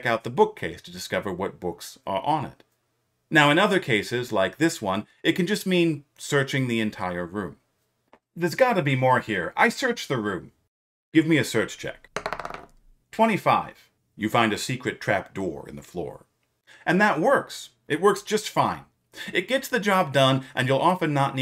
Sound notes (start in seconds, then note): 12.1 rolls dice